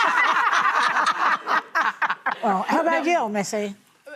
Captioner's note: laughter